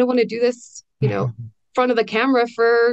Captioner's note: laughs